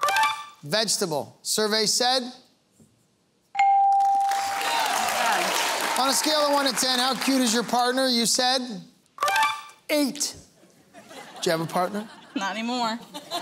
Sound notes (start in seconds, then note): 4.2 cheering and applause; 13.0 laughter